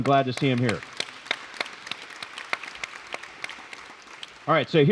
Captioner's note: applause